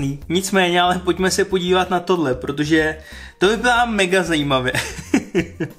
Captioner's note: laughter